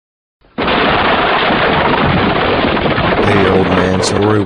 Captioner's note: crash